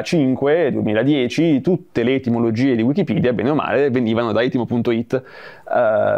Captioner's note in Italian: in italiano